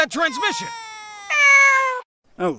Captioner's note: cat meows